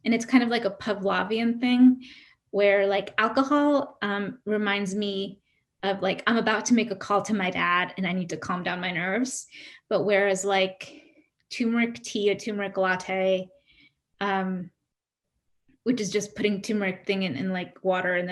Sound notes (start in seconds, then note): none